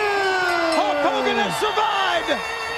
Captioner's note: bell ringing